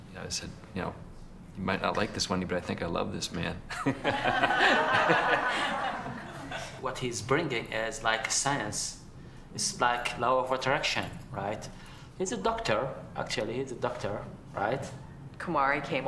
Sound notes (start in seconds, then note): 3.8 all Laughing